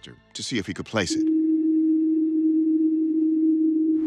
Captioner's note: humming